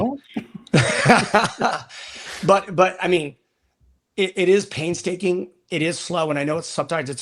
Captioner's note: laughter